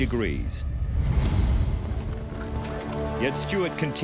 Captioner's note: horses trotting